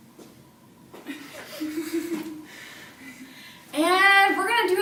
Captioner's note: laughing